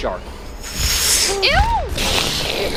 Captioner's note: whooshes through the air!